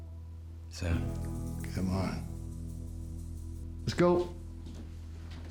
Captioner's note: scottish accent